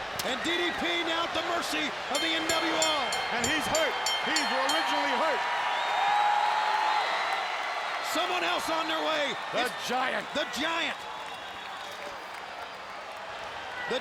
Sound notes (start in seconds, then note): 2.1 bell ringing; 5.9 audience cheering